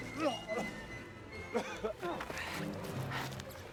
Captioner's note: Defenwol coughs